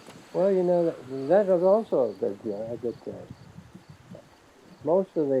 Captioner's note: mutters